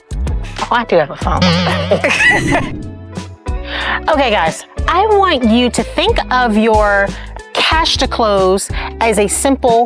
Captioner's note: laughing